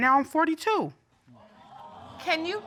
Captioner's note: audience exclaiming